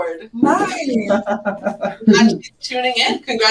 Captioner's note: laughs